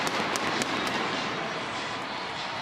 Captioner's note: fireworks